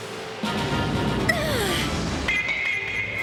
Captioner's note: clobbering; girl grunts